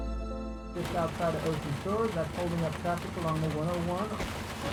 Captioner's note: rain tapping